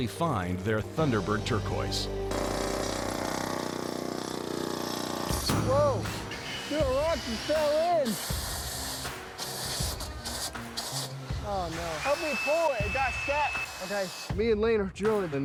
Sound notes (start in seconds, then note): 2.2 drilling; 4.7 thud, drilling stops; 9.1 drill sputtering